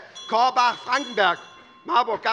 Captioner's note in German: Unruhe - Glockenzeichen des Präsidenten